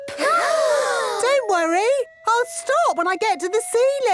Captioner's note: children gasp